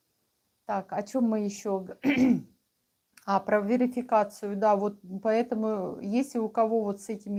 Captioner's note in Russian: откашливается